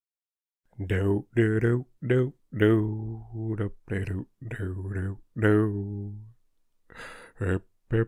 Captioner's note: doop de doop doop dooo doop de doop do do doo